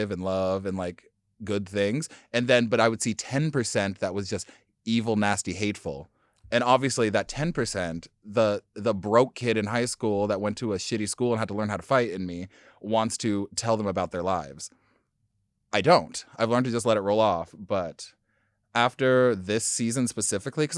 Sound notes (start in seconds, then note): none